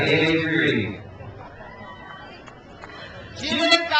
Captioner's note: crowd cheers